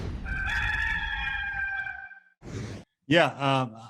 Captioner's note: rooster crowing